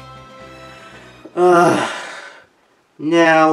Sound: sigh

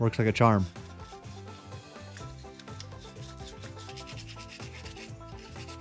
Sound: scrubbing brush rustling

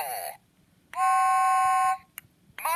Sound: whistle blows

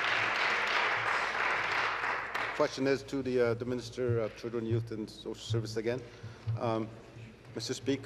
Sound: applause

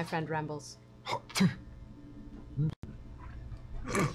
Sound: hacking spit

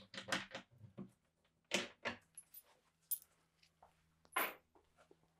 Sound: tools clattering continues

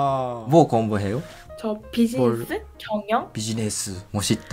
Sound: Korean

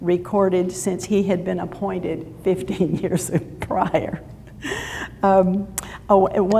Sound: laughs

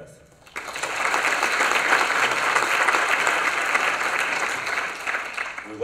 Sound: applause

